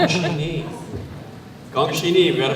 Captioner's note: foreign language